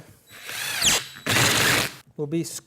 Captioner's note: drill whirring